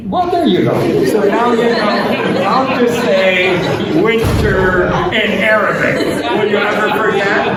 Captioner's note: laughter